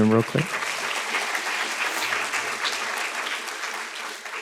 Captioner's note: students claps